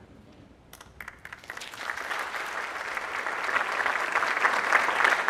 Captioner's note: crowd applauding